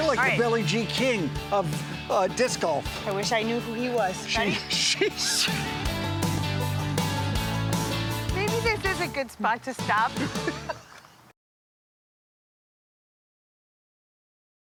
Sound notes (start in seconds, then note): 4.3 laughs; 10.1 both laugh cheerfully